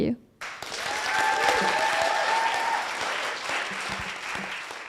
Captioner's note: applause